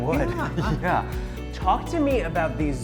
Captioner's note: laughs